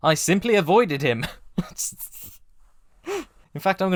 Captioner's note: sputtering laugh